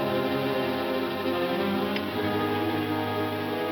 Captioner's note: gun clicks